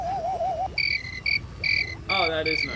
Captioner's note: chirping